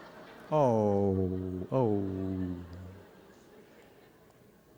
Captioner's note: awwww